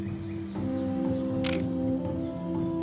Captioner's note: camera shutter clicks